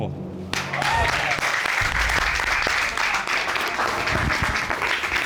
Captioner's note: applause